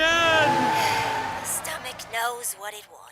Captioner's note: tires screech; sighs